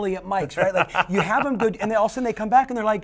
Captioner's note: laughter drowns out dialogue